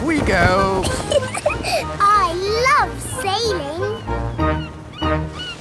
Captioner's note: giggles